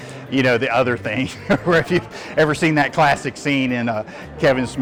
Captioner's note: laughs